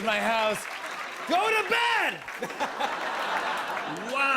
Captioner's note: laughter